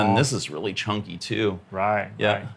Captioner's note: none